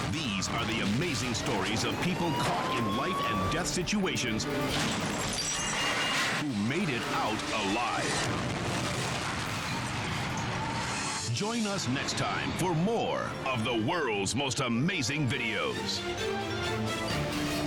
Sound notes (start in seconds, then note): 4.6 gunshot fires; 8.2 bomb exploding